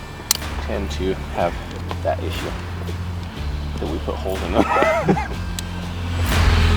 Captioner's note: laughs